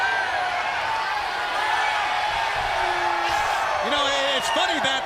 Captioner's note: crowd cheering